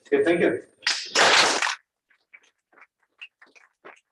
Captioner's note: applause